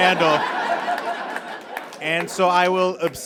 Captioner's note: audience laughs; scattered applause